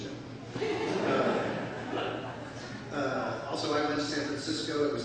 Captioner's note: laughter